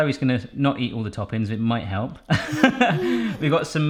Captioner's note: laughs